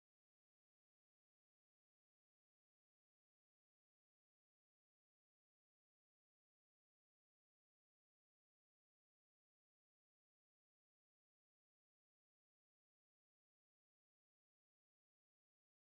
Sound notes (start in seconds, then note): none